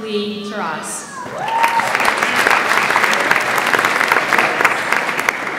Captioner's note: audience applauds